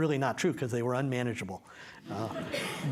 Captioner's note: laughter